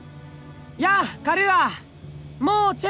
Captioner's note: shout